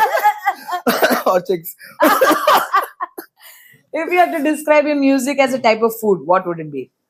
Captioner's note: laughs